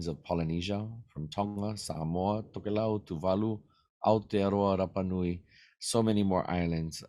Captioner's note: speaking in Native language